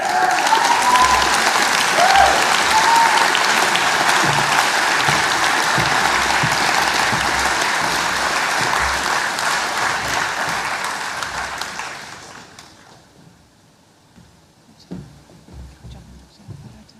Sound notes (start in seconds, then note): 4.7 cheering and applause